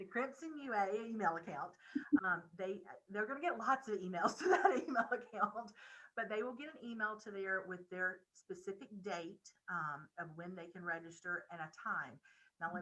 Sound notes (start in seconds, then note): 5.7 laughing